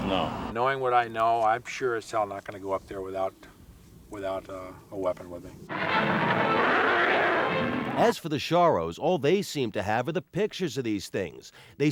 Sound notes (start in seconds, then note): 5.7 animal roaring; 5.7 dramatic music